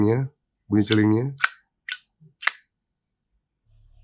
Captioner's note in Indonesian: Zippo Cling